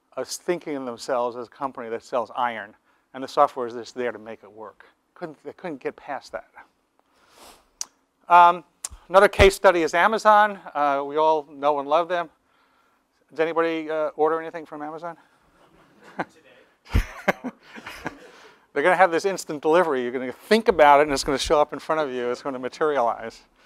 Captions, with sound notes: Always thinking of themselves as a company that sells iron, and the software that's there to make it work, they couldn't get past that. Another case study is Amazon, we all know and love them, has anybody ordered anything from Amazon? [LAUGH] They're going to have this instant delivery, you're going to think about it and it's going to show up in front of you, and it's going to materialize.